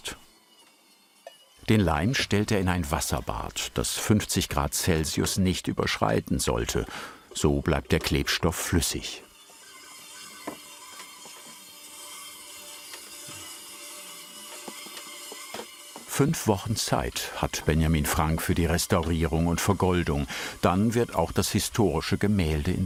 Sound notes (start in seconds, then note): 9.1 buzzing